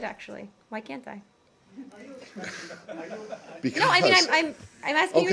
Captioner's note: laughter